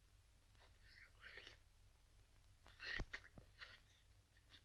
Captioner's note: slurping